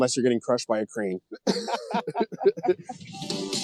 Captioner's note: laughter